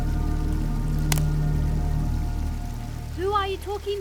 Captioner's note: branch cracks